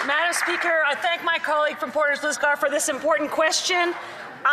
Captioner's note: some Applause